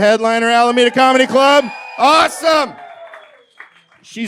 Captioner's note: cheers from audience